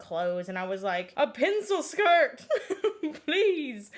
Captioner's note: laughs